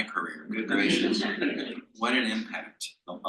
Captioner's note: panel laughs